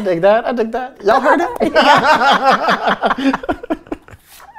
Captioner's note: laughing